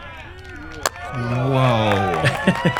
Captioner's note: cheering; laughs